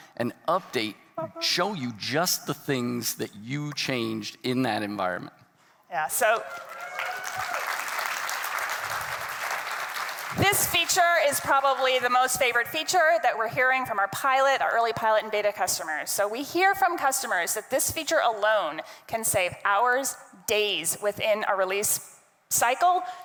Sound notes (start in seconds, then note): 6.2 attendees cheering and clapping